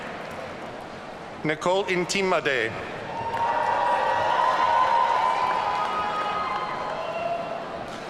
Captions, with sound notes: Nicole Ntim-Addae. (audience cheering)